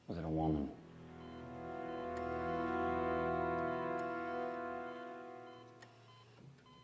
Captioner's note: beeping intensifies